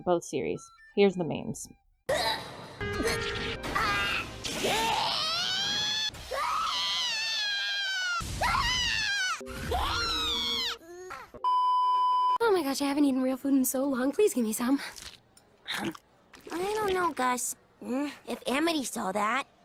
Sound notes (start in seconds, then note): 2.0 alot of Screaming; 4.5 more Screaming